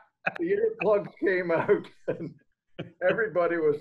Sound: laughs

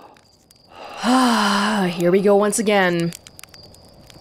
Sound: deep breath

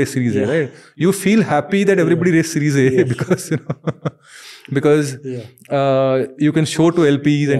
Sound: chuckles

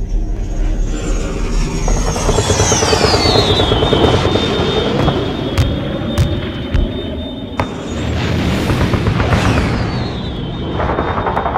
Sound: jet Flying Overhead

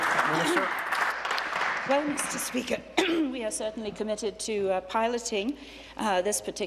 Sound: applause

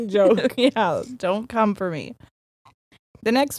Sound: both laughing

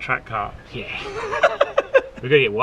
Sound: laughs

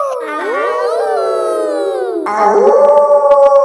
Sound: howling; kids howling; wolf howling loudly

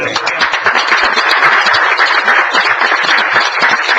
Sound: applause

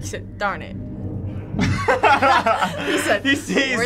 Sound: both laughing

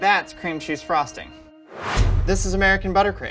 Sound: whooshing

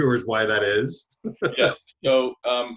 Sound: laughs

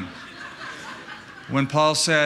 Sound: laughter

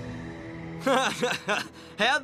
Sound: laughing

